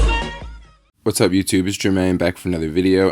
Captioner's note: voiceover